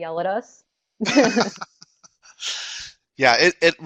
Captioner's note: laughter